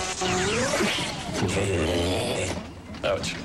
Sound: different video game noise as Max Headroom appears on screen; computerized glitchy stuttering

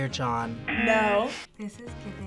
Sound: buzzer rings; buzzer

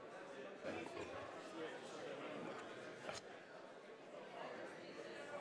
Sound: audience chattering

